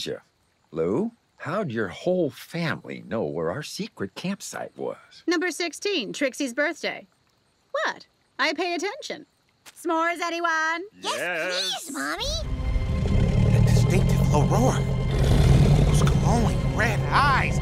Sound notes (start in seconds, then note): 12.7 roaring